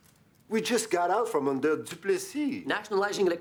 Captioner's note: speaking in foreign language